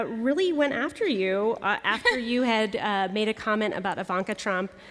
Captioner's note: laughter